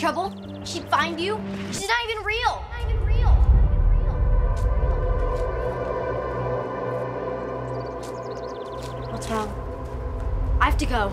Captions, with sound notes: You'd get in trouble, she'd find you? She's not even real! (voice echoes) - What's wrong? - I have to go.